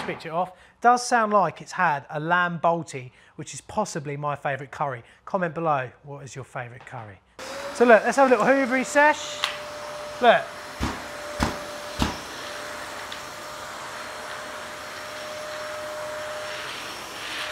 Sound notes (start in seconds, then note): 7.4 wet vac roars; 10.8 wet vac booms; 14.8 wet vac roars